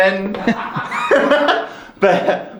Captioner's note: laughs